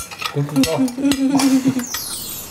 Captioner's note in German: Lachen